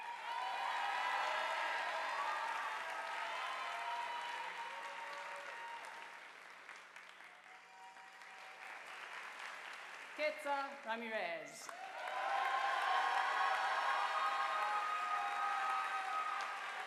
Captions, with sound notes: (audience applauding) Katzer Ramirez. (audience applauding)